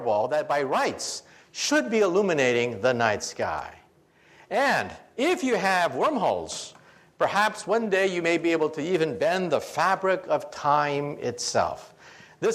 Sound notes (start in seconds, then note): none